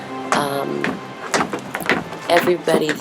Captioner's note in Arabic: النقر على الأرض